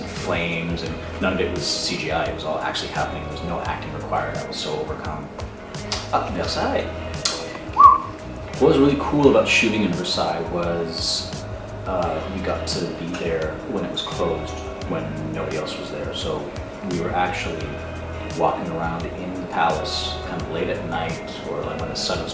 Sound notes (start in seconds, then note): 7.2 whistles